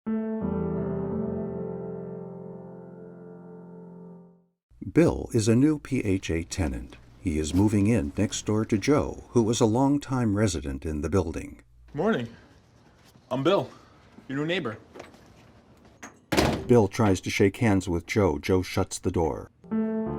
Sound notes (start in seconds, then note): 0.0 gentle piano music; 16.1 door slams